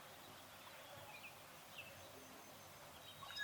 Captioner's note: birds chirping